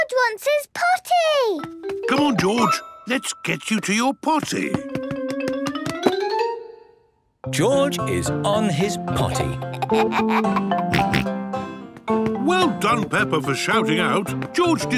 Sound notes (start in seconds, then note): 9.3 giggles, snorts